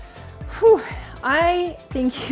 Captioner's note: sighing in relief